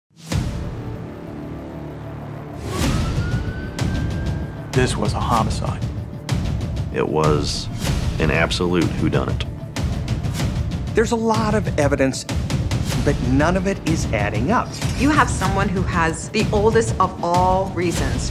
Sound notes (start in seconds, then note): 0.1 dramatic music; 2.5 police siren